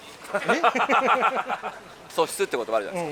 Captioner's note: laughs